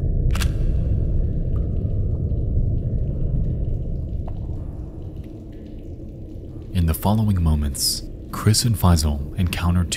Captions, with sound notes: (camera shutter clicking) In the following moments, Chris and Fyzal encounter